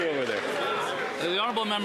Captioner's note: some Applause